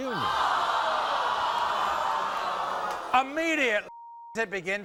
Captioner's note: audience groans